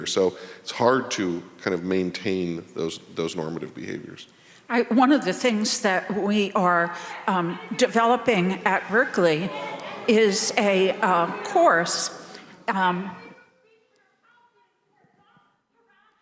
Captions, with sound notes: so it's hard to kind of maintain those normative behaviors? - One of the things that we are developing at Berkeley is a course, (member shouting)